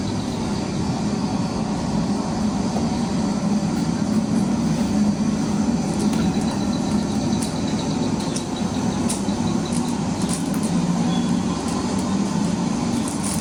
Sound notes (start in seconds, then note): 1.1 background: birds, water, footsteps on river bank